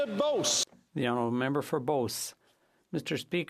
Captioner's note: some Applause